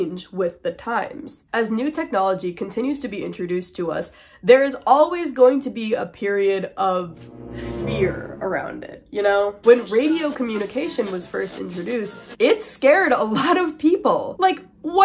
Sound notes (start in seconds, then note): 7.0 suspicious sound effect